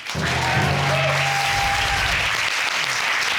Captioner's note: audience cheering